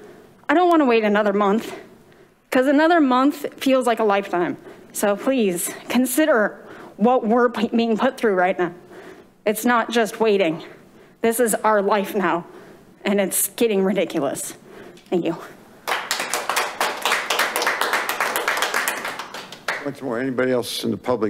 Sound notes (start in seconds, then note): 15.8 members clapping